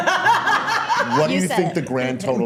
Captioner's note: all laughing